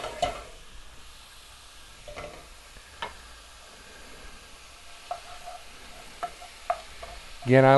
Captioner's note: silence